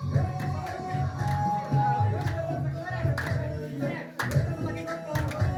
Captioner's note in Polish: Aplauz